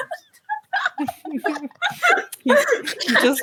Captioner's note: laughter